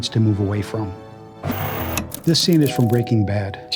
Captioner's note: static